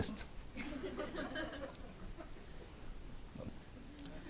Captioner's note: audience laughs